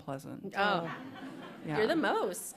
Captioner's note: laughter